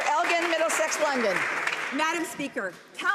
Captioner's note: some Applause